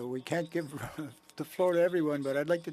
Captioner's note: speaking french